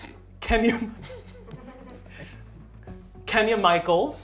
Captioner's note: laughter